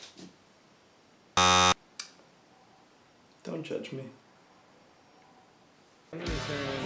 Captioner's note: record scratch; buzzer